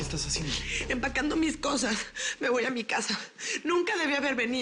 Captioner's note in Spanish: Sollozos